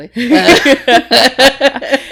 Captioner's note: laughter